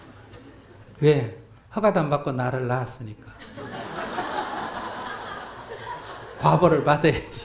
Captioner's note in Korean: 청중 웃음